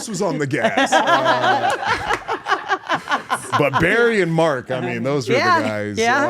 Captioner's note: laugh